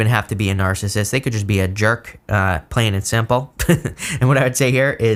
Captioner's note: chuckles